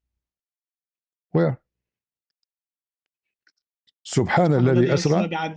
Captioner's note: Arabic